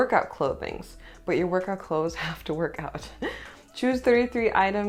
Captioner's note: laughter